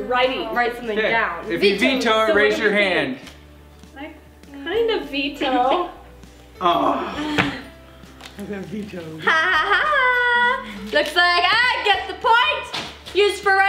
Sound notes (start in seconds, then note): 6.6 groan